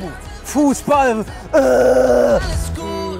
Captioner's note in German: Er grölt